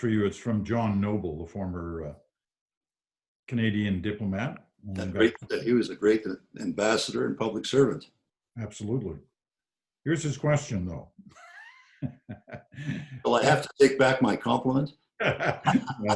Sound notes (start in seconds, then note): 11.3 chuckles; 15.2 laughs